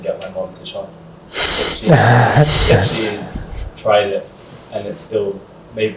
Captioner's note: laughs